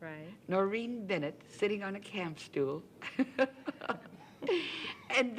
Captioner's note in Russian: Смех